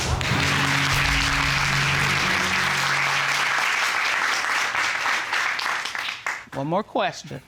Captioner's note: audience clapping